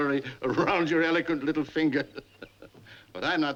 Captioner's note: laughing